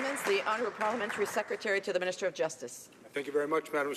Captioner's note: some applause